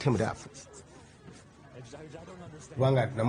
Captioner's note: chatting